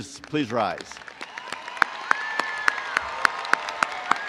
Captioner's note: crowd applauding